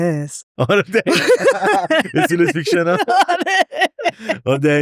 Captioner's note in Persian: خنده